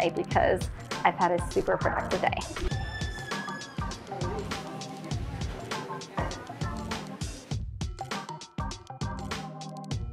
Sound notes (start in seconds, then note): 2.5 door squeaking; 4.4 upbeat music